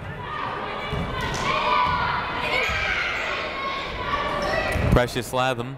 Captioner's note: people shouting in the crowd